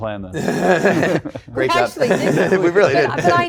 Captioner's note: chuckles